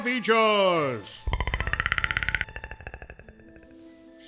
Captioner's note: scary alien clicking sounds